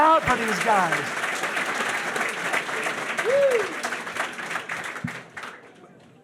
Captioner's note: audience cheering; audience applauding